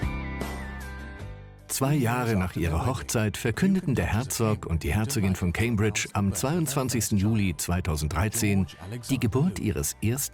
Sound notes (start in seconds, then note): 1.5 voiceover